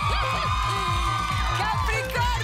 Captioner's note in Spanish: Exclamaciones